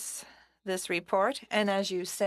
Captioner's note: speaking french